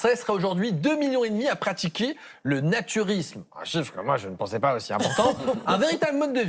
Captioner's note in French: rires